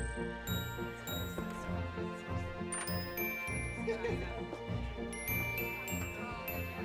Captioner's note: guests chattering